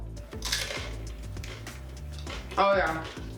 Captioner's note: nachos crunching